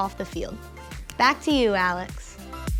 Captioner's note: fingers clicking; upbeat music